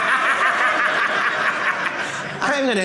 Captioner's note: laughing